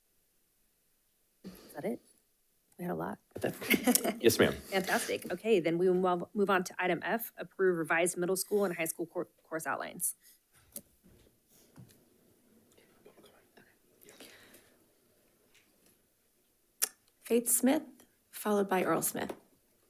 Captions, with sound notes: - Is that it? We had a lot. (laughs) - Yes, ma'am. - Fantastic. Okay, then we will move on to item F, approve revised middle school and high school course outlines. Faith Smith, followed by Earl Smith.